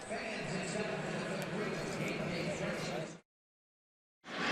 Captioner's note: pa announcement